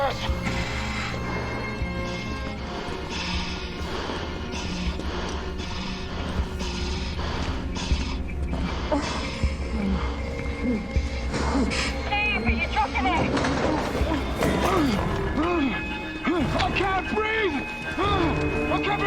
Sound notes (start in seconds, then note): 2.1 panting; 14.1 Steve grunting